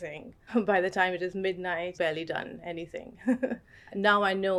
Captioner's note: chuckles